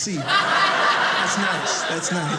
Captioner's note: audience laughing